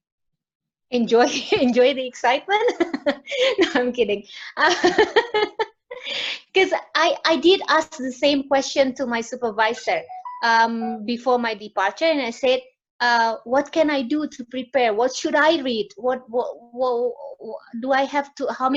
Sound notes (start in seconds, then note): 2.7 laughs; 4.9 laughs